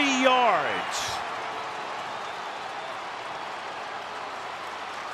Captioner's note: crowd cheering